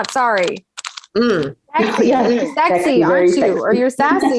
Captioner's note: laughing